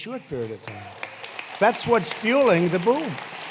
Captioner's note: applause